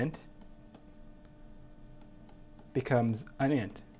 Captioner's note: tapping